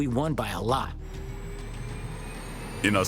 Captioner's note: tense music; graphics whooshing